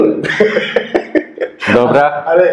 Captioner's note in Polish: śmiech